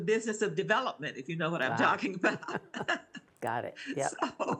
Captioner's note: laughs